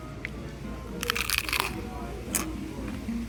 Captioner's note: crunches louder